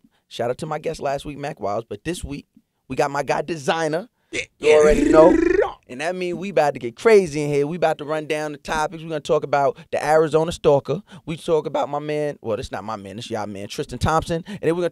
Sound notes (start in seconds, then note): 4.4 trilling